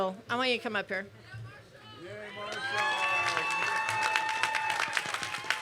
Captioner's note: cheers and applause